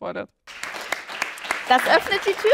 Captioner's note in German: Applaus